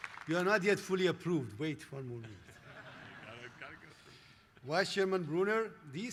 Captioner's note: applause